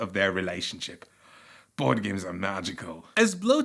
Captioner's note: sighs